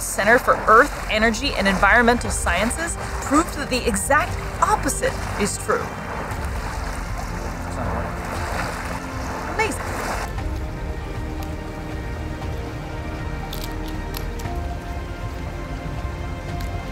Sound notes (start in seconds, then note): 6.1 background music; 6.1 water lapping noises; 8.1 background music; 8.1 water lapping noises; 10.0 background music; 13.5 sound of sea otter quietly munching on crab